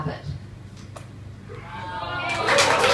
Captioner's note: audience cheers